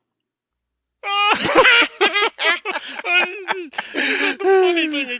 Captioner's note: both laughing